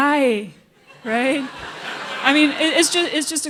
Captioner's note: laughter